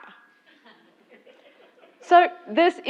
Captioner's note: laugh